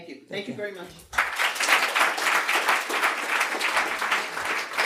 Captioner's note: audience clapping